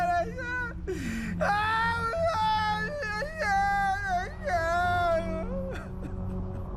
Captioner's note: mumbling incoherently; wailing